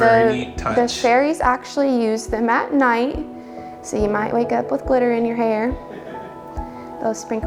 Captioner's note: laughs